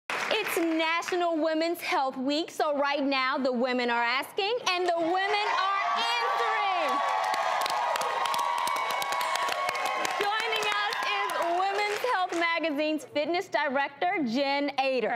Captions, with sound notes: It's National Women's Health Week, so right now, the women are asking and the women are answering. (audience cheers) Joining us is Women's Health magazine's fitness director, Jen Ator.